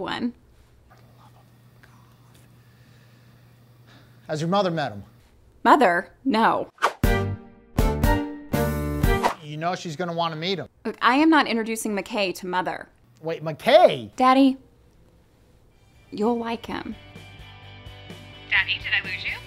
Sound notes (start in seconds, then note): 6.8 swipe; 9.2 swipe